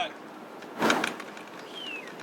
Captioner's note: luggage clinks